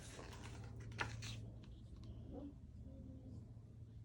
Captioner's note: book squeaking